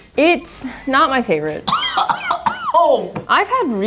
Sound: coughing

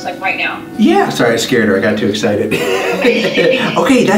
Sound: laughs

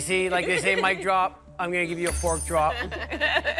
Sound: laughs

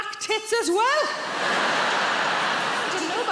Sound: audience laughs

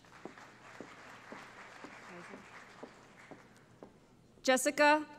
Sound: applause

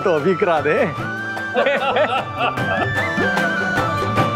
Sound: laughing

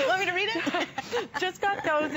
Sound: laughter

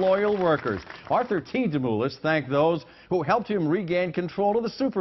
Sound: applause

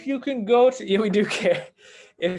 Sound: laughs

